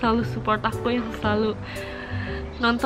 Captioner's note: deep breath